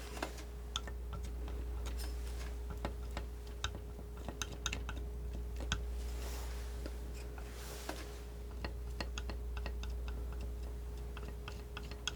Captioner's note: tapping